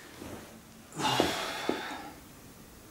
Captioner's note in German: stöhnt